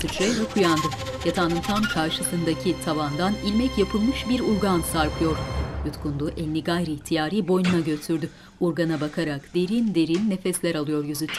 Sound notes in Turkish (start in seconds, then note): 0.0 Müzik - Gerilim; 8.3 Nefes alıp verme sesi